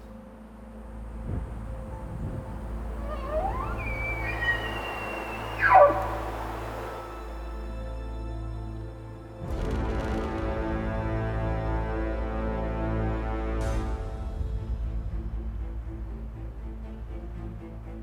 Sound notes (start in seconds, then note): 2.6 bull bugling; 9.8 tense music